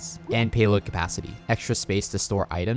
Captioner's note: graphics popping